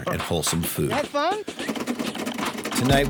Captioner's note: machine thumping